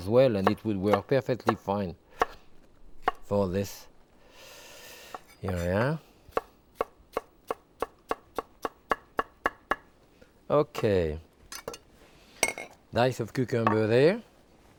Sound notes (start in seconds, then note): 6.3 knife chopping